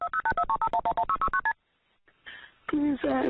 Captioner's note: phone dialing sound